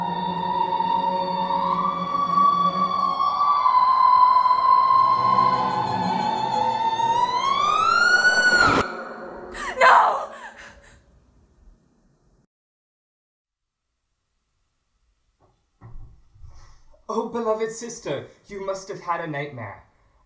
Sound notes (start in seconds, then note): 7.2 scream